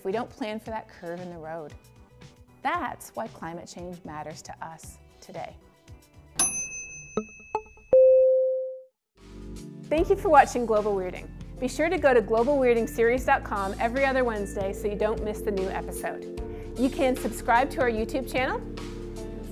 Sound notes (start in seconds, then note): 6.4 bell chiming